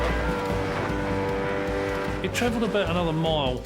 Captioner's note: motor humming